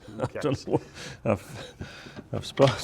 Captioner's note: chuckling